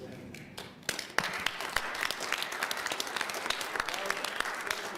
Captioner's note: applause